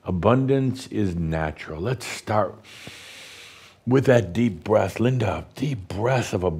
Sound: Adamus takes a deep breath

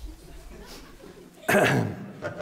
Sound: sniffing; clears throat

